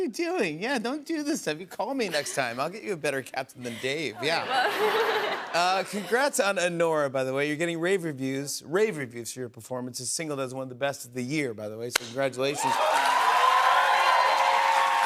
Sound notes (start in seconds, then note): 3.7 laughter; 12.5 cheers and applause